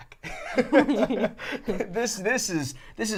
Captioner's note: both laughing